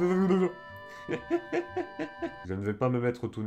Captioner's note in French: Rires